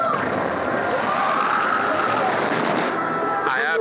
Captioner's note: riders scream